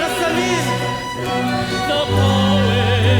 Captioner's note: performer speaking Arabic